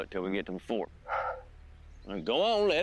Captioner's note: sigh